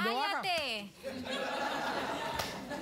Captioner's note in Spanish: risas